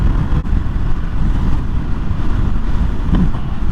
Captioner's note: down-ramp engine deceleration sound reception